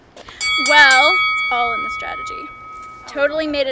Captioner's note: bell